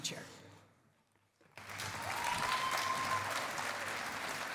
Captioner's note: cheering and applause